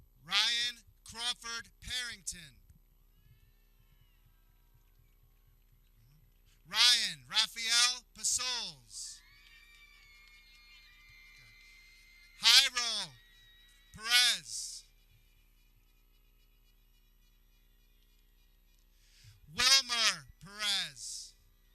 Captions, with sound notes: Ryan Crawford Parrington Ryan Rafael Pasoles (people cheering) Hyram Perez (air horn blares) Wilmer Perez